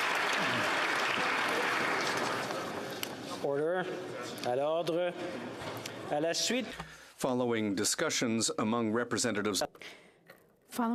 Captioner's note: some Applause